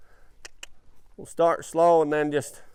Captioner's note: clicks tongue